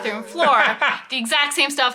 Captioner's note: laughing